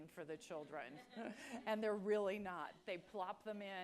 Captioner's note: laugh